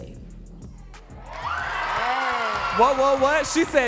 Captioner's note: audience cheering and clapping